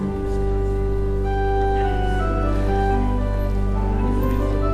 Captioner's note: background conversations